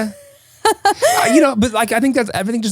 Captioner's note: laughing